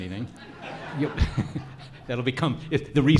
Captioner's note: audience laughs